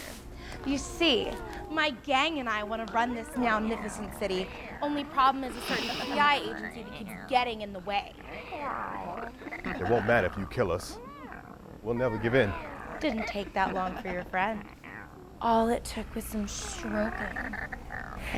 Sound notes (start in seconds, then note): 0.9 purring killers begin meowing; 3.3 meowing intensifies; 4.5 meowing continues; 8.2 meowing continues; 14.8 meowing continues; 18.1 meowing stops